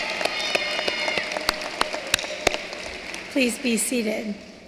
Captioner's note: cheering and applause